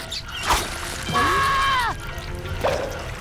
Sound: screaming

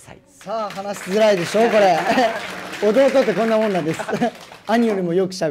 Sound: laugh

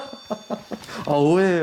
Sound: inhaling

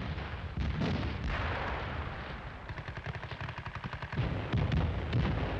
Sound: guns firing and bombs exploding

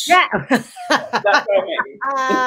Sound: laughs

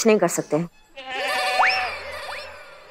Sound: goat bleating

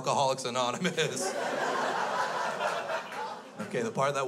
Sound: crowd laughs

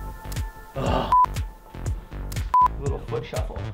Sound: upbeat techno music; groans; beeping; beeping

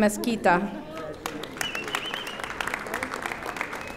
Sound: audience applauding

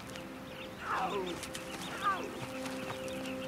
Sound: buffalo grunts

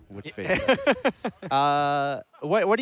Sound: laughs

